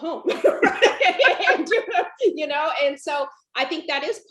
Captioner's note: laughs